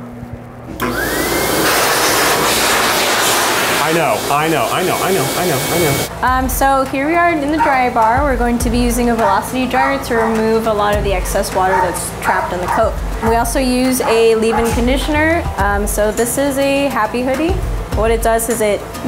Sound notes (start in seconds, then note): 0.7 loud air machine